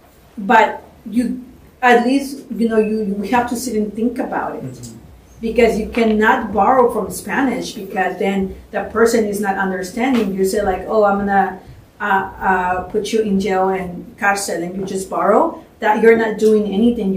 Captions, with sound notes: But at least, you have to sit and think about it because you cannot borrow from Spanish. Because then, the person is not understanding. You say, I'm going to put you in jail, in [SPANISH], and you just borrow that, you're not doing anything.